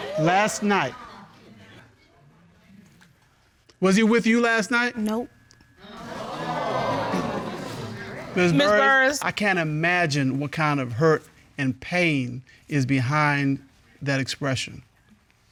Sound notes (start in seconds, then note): 6.0 audience gasps